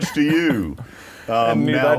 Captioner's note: laughter